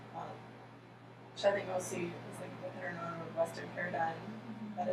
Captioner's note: speaking softly